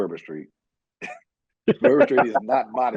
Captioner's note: laughing